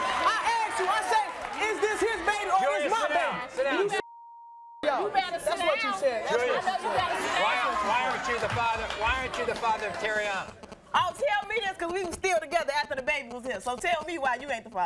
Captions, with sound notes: I ax you, I said, is this his baby or this my baby? - Julius sit down. Sit down Julius. (beeping) - You better sit down. - That's what you said. - I know you better sit down. - Why aren't you the father of Teriana? - Oh tell me this 'cause we was still together after the baby was his. So tell me why you aint the father.